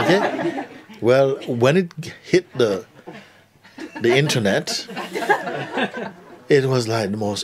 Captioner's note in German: Lachen